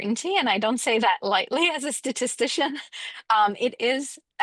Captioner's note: woman laughs